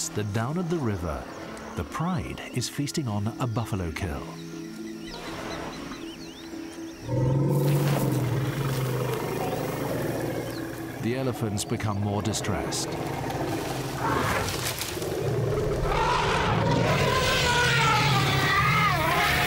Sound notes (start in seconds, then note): 7.0 lion growls; 14.1 elephant grunts; 16.2 elephant roars; 19.2 grass rustles